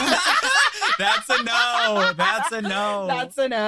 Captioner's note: group laughing